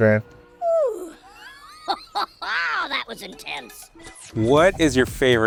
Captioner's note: laughs